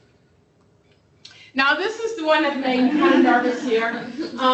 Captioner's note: laughter